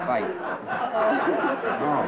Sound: laughter

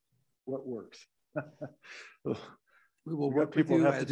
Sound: laughs

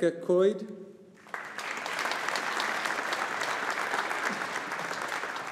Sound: audience applauding

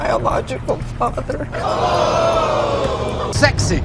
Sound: audience screaming

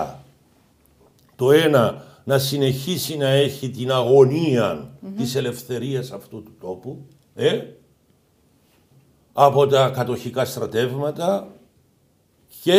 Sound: Turkish

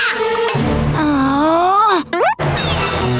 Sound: groaning

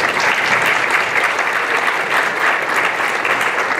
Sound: applause

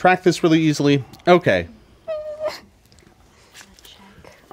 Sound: player whimpers

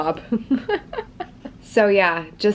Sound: laughing

